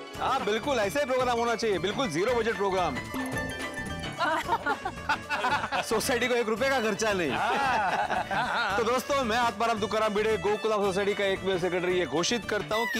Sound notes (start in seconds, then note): 4.1 chuckles